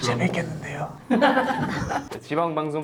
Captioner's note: whisper